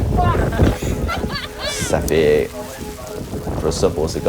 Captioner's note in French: rires